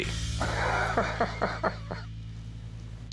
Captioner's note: laughs